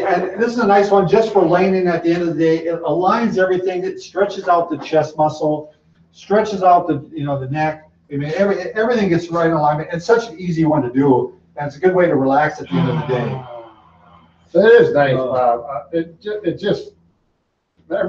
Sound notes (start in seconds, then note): 12.3 sighs